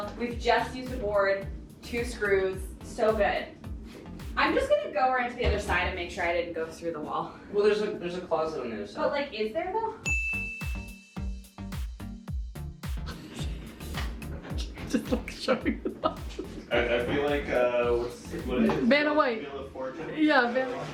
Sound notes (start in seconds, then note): 10.0 bell dinging; 14.5 female laughing